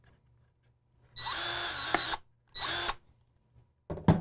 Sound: drill whirring

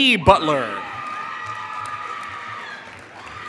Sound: applause

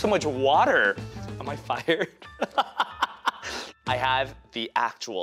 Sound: laughing

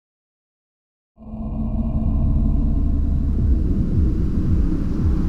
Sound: wind groaning

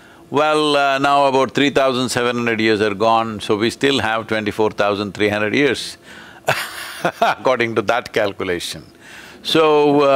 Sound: laughs

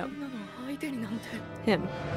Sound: speaking in foreign language

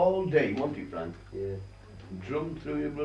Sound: none

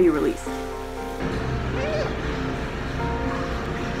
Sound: sea otter pup, Tazlina, vocalizing; background music

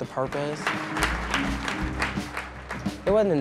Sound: audience applauds

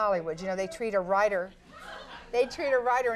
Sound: audience member shouting

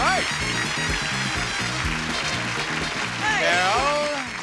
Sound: audience cheering; upbeat music

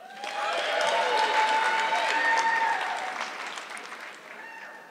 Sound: audience clapping

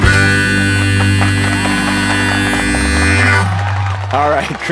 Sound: harmonica music continues; audience applauds

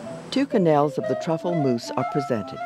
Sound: voiceover

